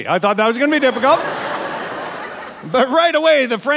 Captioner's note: audience laughing